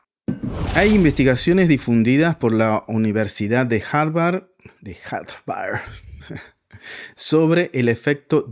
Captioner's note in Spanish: risas